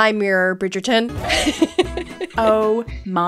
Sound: laughing

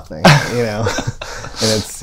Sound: laughter

